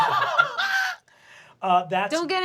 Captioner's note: laughs